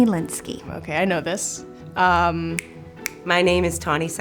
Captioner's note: snaps fingers